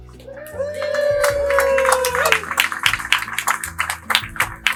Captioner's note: applause